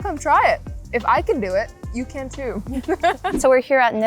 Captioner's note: both laughing